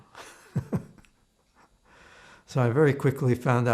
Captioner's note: laughing